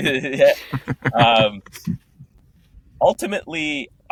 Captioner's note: laughing